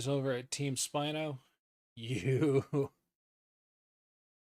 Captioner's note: chuckling with awe